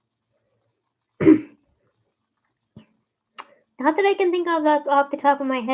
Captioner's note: clears throat and sucks teeth